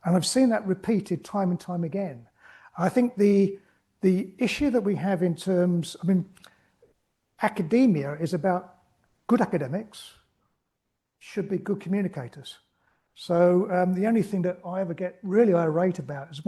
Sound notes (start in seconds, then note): none